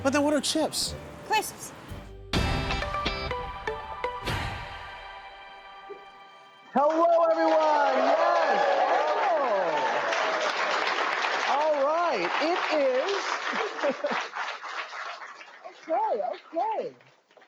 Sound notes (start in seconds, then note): 7.7 cheers and applause